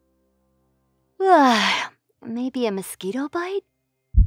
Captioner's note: silence; yawns